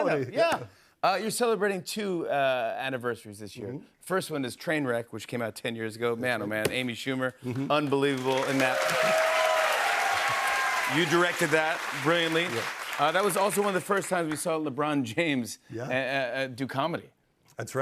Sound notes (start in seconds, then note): 8.1 cheers and applause